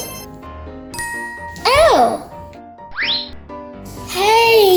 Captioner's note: magical ting